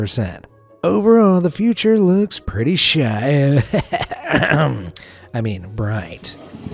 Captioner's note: ahem